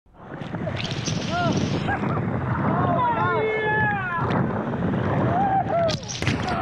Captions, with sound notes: (water splashes) (people yelling) - Oh, my! - Yeah! Woo-hoo.